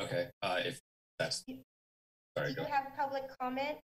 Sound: speaks faintly

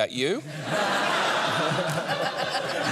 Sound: laughter

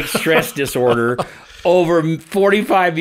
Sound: laughing

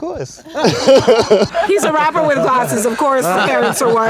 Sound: laugh

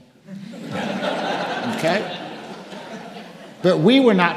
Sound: audience laughing

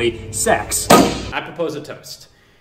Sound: claps bat

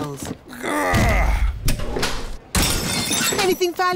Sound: grunts; crashes

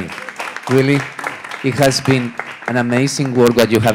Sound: audience applauds

